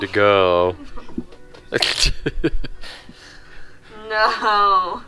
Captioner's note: pretend sobbing